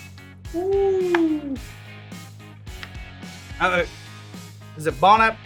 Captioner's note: tortillas flipping